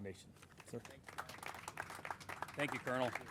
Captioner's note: crowd applauding